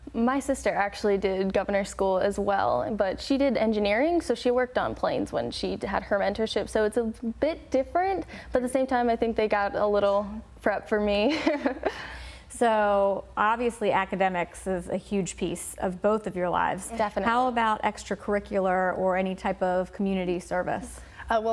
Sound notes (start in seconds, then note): 11.4 laugh